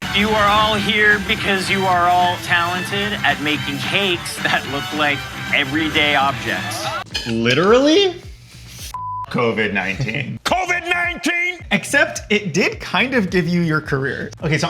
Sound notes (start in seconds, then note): 8.9 beep